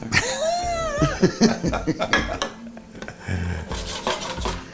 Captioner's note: both laughing